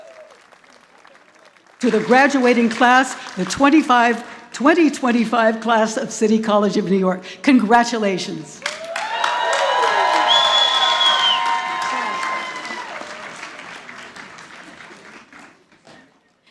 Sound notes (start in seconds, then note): 8.6 audience applauding